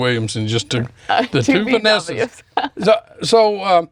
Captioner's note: laughs